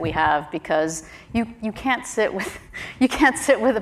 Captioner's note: chuckles